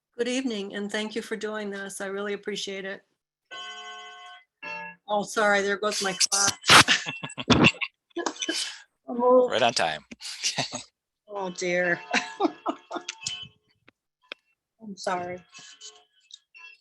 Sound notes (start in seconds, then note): 3.5 clock chimes; 14.3 chuckles